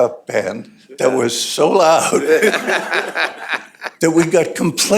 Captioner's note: laughter